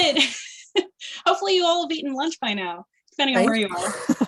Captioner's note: chuckling; laughter